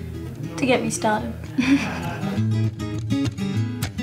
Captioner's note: laughs